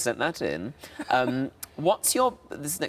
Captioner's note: Sarah laughs